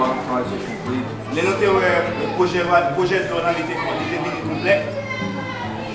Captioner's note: speaking in foreign language